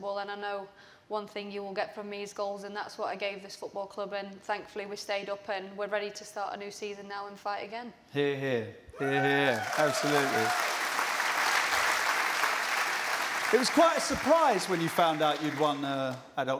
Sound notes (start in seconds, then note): 10.7 cheers and applause